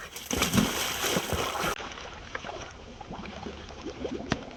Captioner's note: water splashing